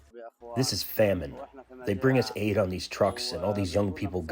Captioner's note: through translator